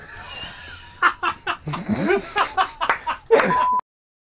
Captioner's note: laughing